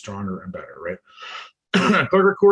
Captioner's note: coughs